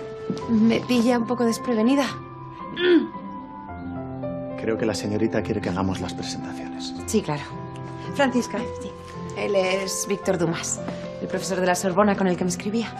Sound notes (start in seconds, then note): 2.7 coughs